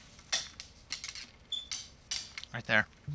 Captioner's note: clacking